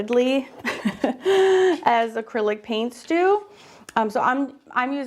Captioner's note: laughs